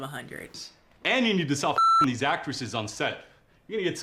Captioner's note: beep